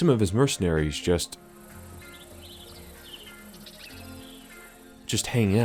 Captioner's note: jungle noises